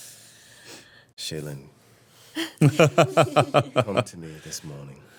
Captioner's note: everyone laughing